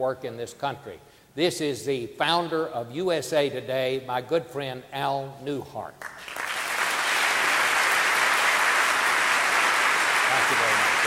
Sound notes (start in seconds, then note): 6.0 audience applauding